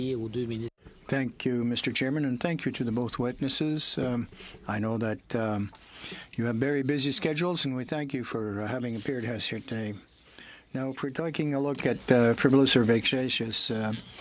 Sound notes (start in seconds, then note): 4.1 speaking in french